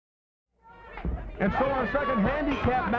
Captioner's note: crowd murmuring